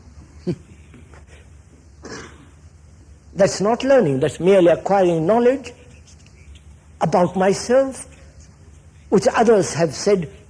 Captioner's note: laughs